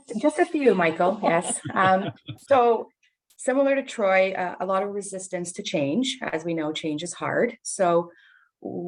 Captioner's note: laughing